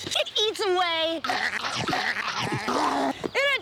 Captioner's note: chomping loudly